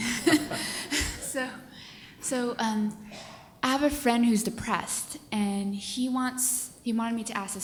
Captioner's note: laughter